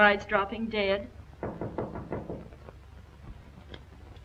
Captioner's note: knocking